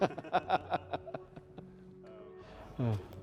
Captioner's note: laughs